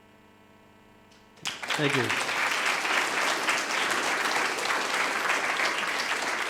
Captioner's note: audience applauding